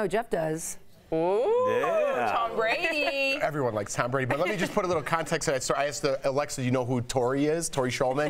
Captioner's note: laughter